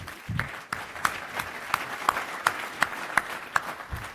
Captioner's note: applause